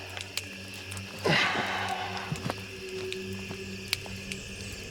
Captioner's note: crickets Chirping; fire Crackling